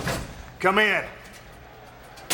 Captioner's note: door banging